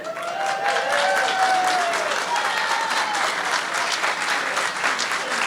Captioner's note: audience cheering